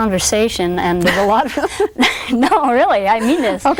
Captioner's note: laughs